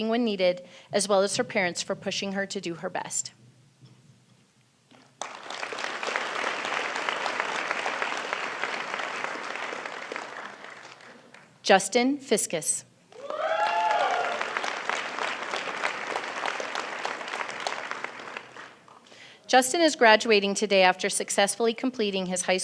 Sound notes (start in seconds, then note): 10.7 applause